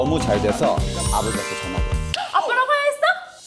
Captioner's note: succesful sound effect